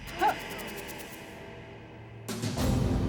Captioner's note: gasps